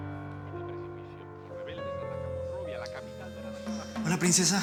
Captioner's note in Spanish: Voz en la televisión